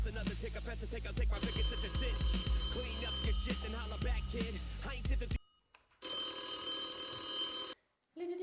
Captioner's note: phone ringing